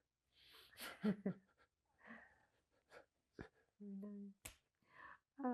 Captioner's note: laughing